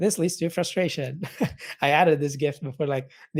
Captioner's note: laughing